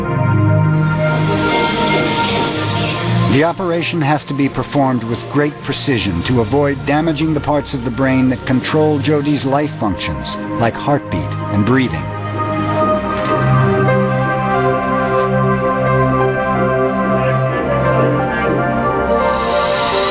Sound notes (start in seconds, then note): 0.9 machines hum, beep